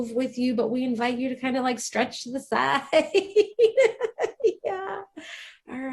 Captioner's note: laughs